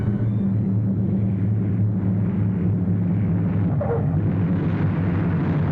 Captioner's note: airplane engine revving